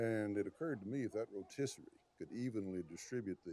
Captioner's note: chuckles